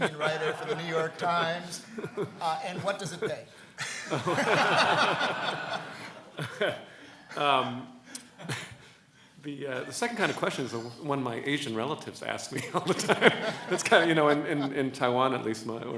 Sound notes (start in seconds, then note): 4.4 laughs